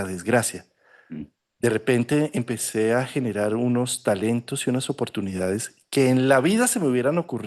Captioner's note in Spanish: carraspeo